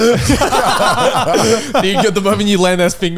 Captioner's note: all laughing